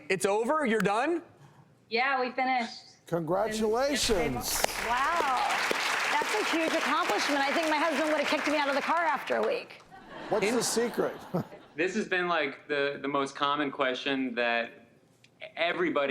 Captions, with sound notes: It's over, you're done? - Yeah, we finished. - Congratulations! (Applause) - Wow, that's a huge accomplishment. I think my husband would have kicked me out of the car after a week. (laughter) - What's the secret? - This has been, like, the most common question that everybody has had.